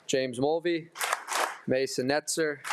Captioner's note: attendees applauding